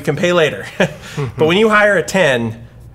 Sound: both laugh

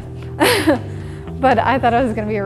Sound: laughs

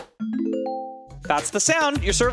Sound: tones chiming

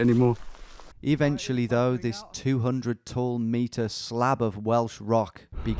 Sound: voiceover

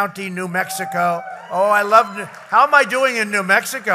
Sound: applause

